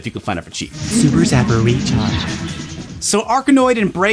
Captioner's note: imitating announcer